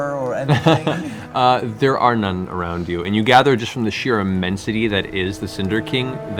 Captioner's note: laughs